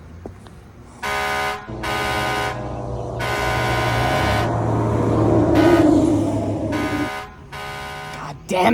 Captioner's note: sirens wail